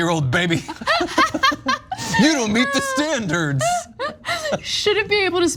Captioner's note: laugh